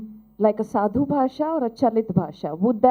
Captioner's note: speaking gujurati